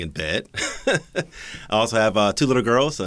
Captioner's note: laughs